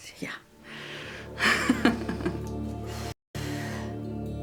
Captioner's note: laughs